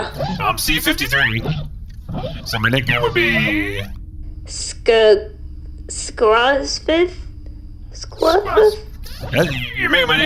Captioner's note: hesitant